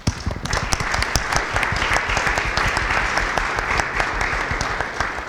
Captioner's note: audience applauding